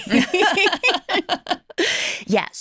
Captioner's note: laughter